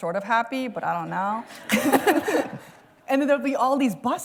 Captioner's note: laughter